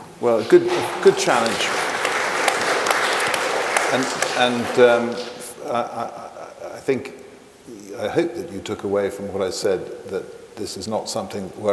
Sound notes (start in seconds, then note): 2.3 audience applauding